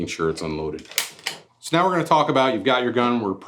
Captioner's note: gun cocking